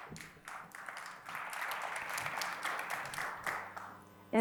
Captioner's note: audience applauds